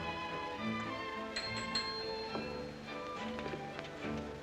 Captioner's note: soft music; bell rings; soft music